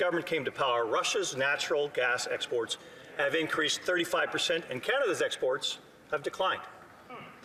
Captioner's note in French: voix de l'interprète